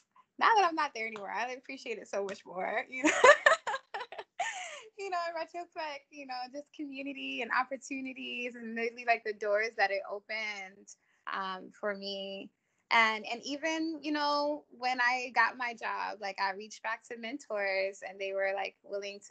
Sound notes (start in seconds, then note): 3.0 laughs